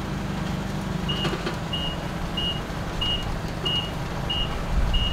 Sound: forklift beeping

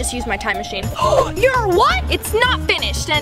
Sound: gasps

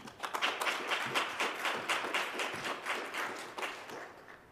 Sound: audience claps

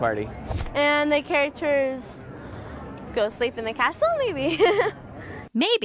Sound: laughs

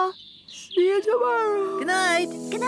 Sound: yawning

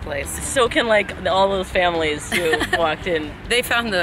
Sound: laughs

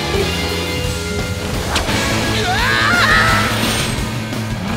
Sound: screaming

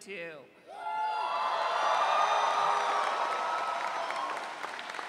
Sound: audience cheering

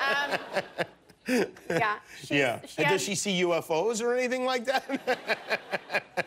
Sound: laughter

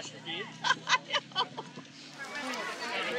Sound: laughter

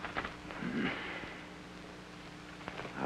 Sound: grunts

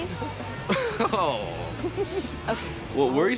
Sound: chuckles

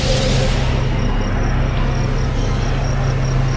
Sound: crickets chirping

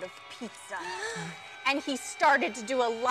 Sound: spooky music; group gasps

